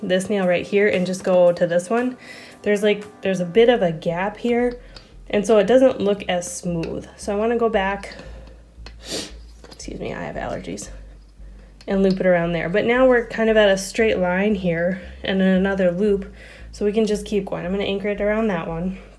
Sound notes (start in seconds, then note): 9.0 sniffle